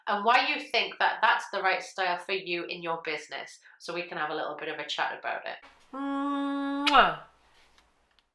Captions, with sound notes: and why you think that that's the right style for you in your business, so we can have a little bit of a chat about it. (Mwah)